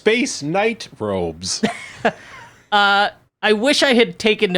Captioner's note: laughing